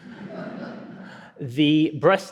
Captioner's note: audience giggles